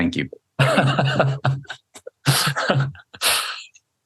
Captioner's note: laughs